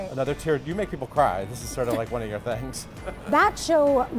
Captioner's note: laughs